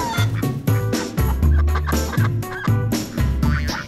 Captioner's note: excited cackle